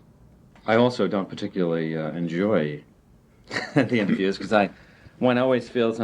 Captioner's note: chuckles